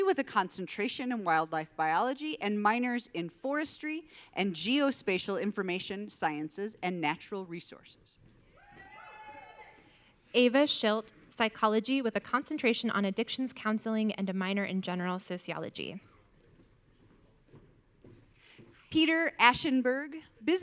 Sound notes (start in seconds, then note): 8.6 audience cheering